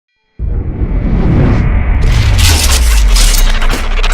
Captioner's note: air whooshing